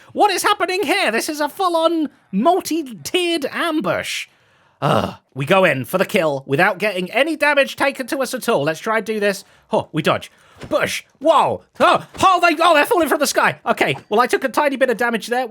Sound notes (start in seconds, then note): 4.5 sighs